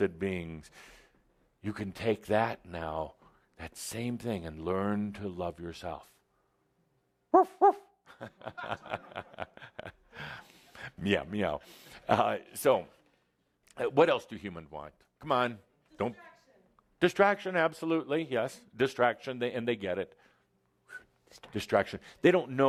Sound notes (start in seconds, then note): 7.4 Adamus “barks” then chuckles